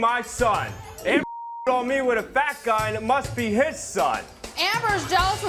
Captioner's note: beep